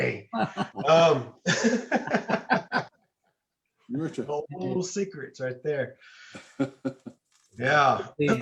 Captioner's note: laughter